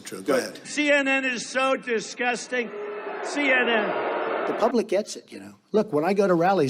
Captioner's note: booing